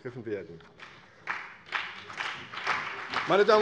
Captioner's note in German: Beifall CDU und BÜNDNIS 90/DIE GRÜNEN